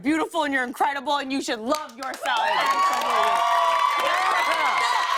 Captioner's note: cheers and applause